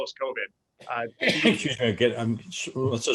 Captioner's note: coughing